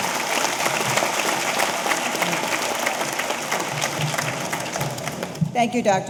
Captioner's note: audience cheering; audience applauding